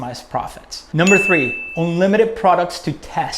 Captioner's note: bell